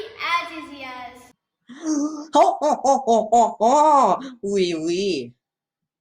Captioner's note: french laugh